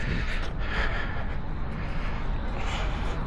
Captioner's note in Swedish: flåsar